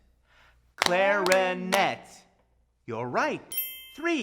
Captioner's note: both clapping